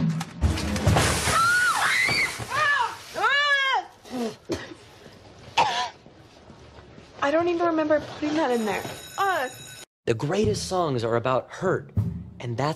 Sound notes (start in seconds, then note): 1.3 screaming; 1.7 coughs